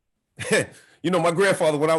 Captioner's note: chuckles